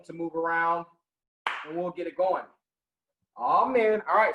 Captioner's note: clapping